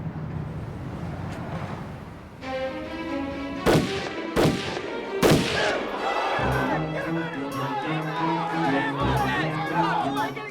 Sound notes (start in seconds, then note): 2.2 tense music; 3.5 gunshots banging; 5.2 people shouting